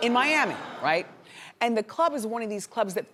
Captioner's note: audience hums